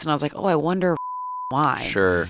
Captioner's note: beep